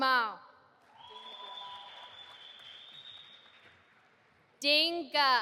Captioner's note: audience applauding